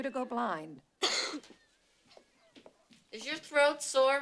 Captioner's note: coughs